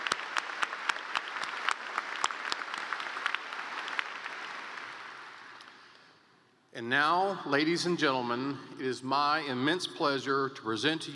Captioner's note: applause